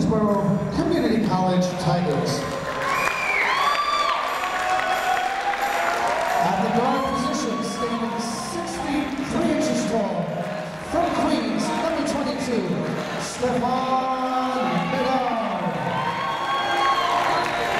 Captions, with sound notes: for the Queensborough Community College Tigers. (cheering) (clapping) At the guard position standing six feet three inches tall from Queens number 22 Stephon Medard. (clapping)